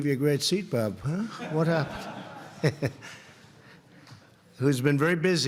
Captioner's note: laughter